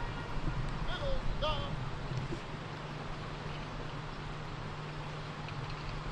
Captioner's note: military commands off mic